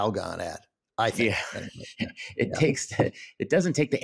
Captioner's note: laughs